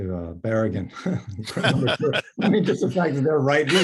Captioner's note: laughs